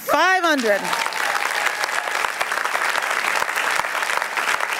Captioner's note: applause